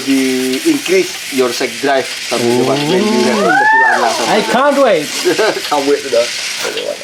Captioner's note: screams of excitement